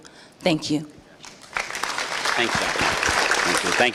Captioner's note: applause